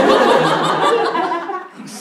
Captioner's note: laughs